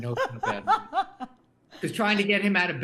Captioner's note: Rachael laughing